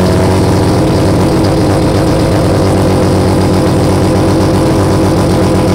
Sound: car engine revving

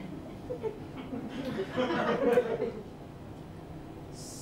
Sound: laughter

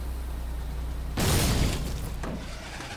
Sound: boom

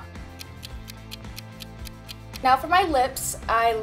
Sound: clock ticks

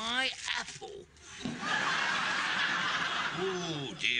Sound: audience laughing

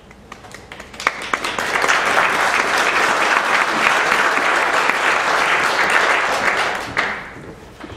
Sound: applause

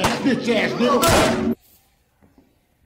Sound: gun shot

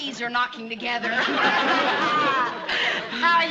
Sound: the ladies laugh together

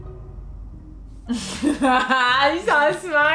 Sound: laughing

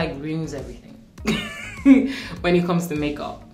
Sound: laughing

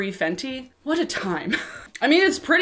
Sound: chuckles

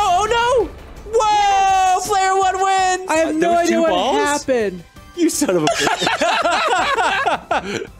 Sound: all laugh

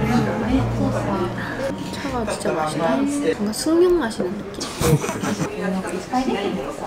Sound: hehehe

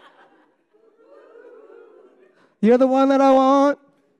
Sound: audience laughing

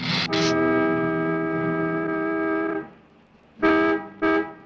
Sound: hissing; car horn honking

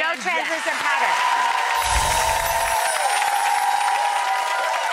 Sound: audience cheers

